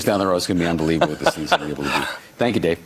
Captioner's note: laughing